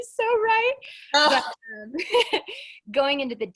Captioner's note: laughs